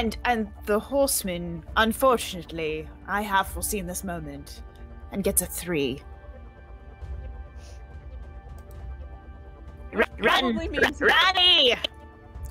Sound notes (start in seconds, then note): 9.9 distorted audio